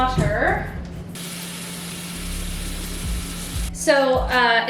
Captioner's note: water running